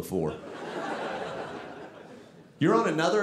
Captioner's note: audience laughing